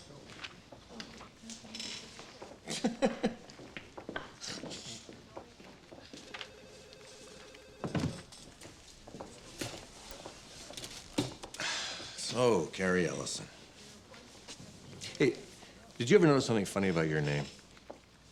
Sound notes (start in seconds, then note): 2.6 laughs; 11.5 sighs